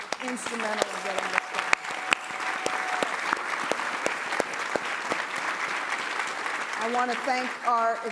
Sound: applause

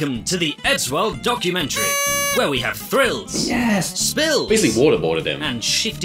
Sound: party horn

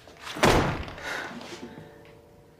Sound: gasps

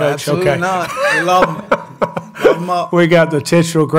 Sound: Mike laughs

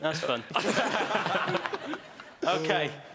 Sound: laughing

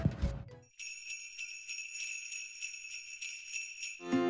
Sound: sleigh bells

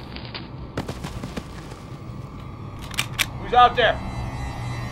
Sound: rocks crashing

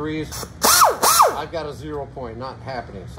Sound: grinder buzzing

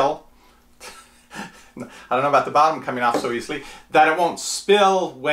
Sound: laughs

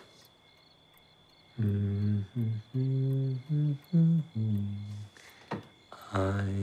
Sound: humming

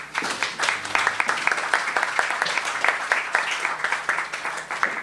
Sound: applause

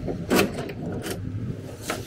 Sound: door knob clanks

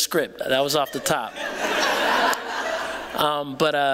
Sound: laughter

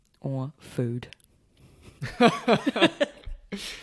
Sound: laughs

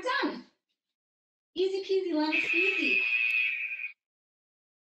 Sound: alarm blares

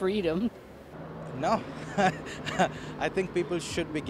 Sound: laughs

